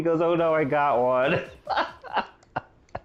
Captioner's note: laughter